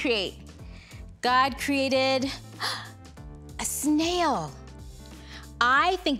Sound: gasps

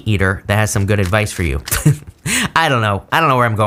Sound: laughs

